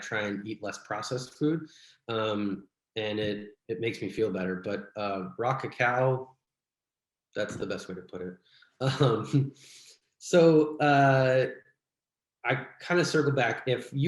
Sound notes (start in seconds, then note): 8.8 laughs